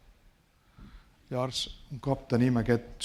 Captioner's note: speaking spanish